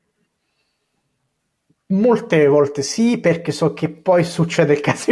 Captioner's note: speaking in Italian